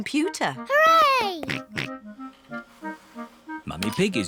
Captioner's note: snorts